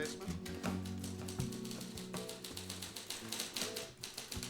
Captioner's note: typing